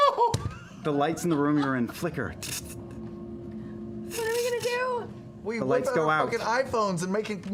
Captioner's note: electric flickering